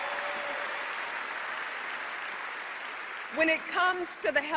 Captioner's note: applause